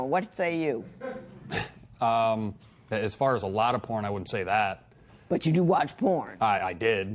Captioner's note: chuckles